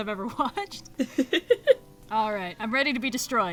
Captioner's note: laughs